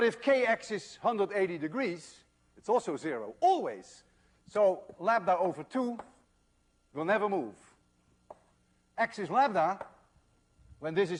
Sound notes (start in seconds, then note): none